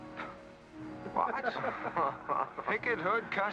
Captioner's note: men chuckle